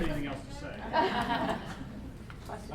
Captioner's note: voiceover; laughter